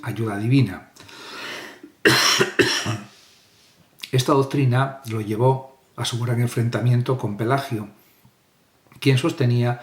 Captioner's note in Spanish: carraspeo